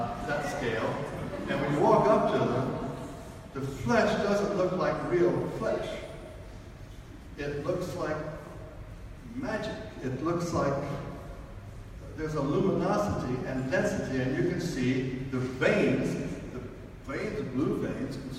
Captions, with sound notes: On that scale. (audience laughs) And we walk up to them, the flesh doesn't look like real flesh. It looks like magic. It looks like there's a luminosity and a density, and you can see the veins, the blue veins,